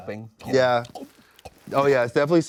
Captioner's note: gulps in air